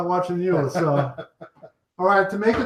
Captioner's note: chuckling